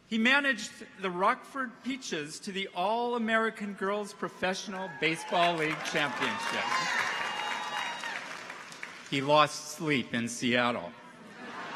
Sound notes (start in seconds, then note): 7.2 people applaud; 7.2 people cheer